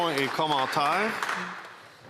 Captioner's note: applause